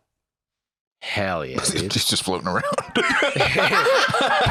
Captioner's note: laughs